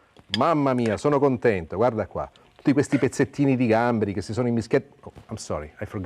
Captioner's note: speaks Italian